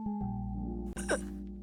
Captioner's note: inhales sharply; burps; laughs